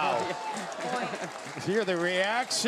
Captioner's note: laughs